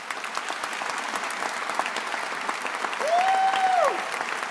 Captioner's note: attendees applauding